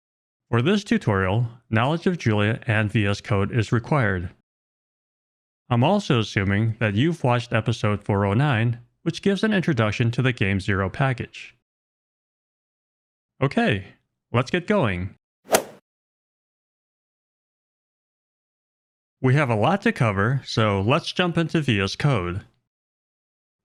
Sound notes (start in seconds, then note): 15.4 golf swing sound effect